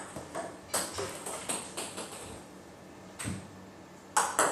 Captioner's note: ball ping pong hitting continues